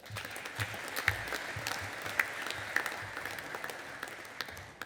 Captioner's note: audience applauding